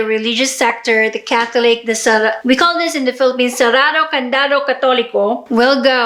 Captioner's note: foreign words